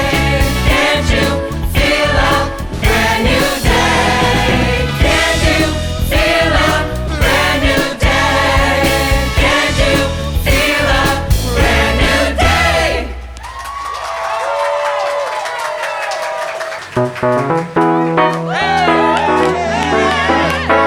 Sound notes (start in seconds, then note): 14.0 crowd cheering; 17.0 upbeat music